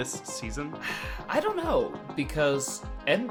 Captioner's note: sighs